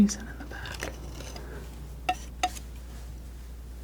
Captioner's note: scratching